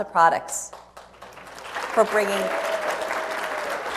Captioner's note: applause